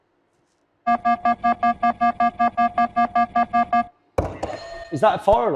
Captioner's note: beeping noise; buzzer sounds